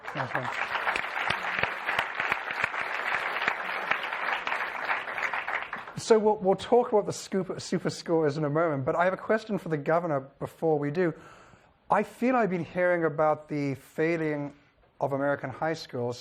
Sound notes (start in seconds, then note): 0.0 applause